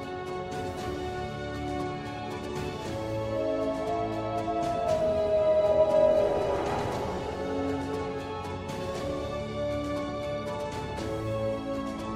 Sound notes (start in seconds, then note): 0.2 dramatic music; 3.0 dog howling